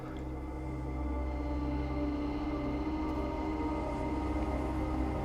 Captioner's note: loud creek